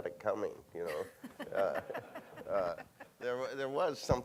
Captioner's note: laughing